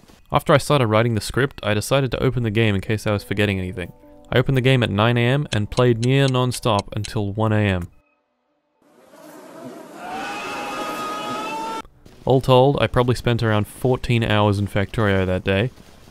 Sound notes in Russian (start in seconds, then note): 9.0 звуки яростного сожаления